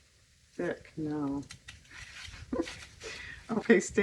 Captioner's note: laughs